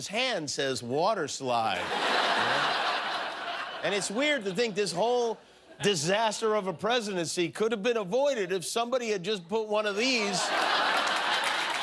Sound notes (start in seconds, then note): 1.7 laughter